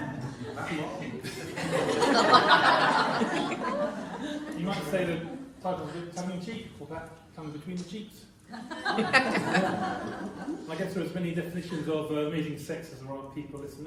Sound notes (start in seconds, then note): 1.6 laughter; 8.5 laughter